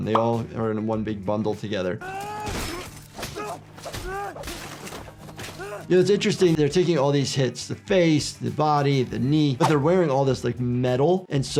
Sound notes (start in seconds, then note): 2.2 Arryk screaming; 3.1 fists pounding